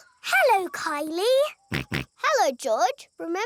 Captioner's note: snorts